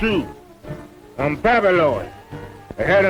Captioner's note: Mose speaking in foreign language